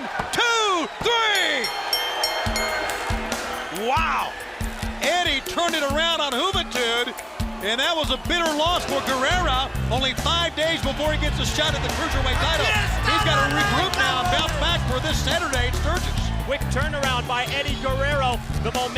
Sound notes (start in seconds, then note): 1.2 bell ringing; 2.7 crowd cheering